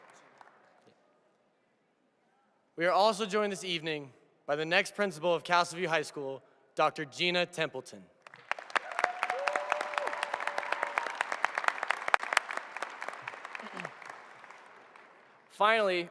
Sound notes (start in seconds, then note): 2.8 applause